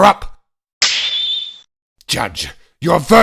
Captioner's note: snap!